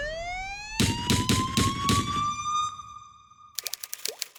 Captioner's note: sirens wail; gunshots; dripping